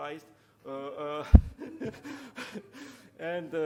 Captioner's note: chuckling